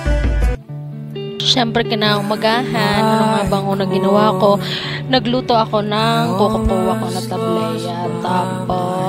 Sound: dialect pronounciation

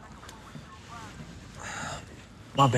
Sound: Jake sighing

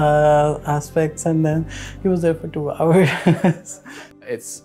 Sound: laughs

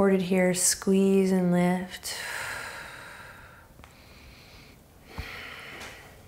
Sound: exhaling strongly

